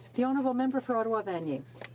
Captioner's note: speaking in french